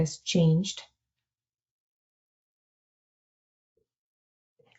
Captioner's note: silence